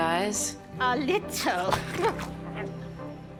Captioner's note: grunts softly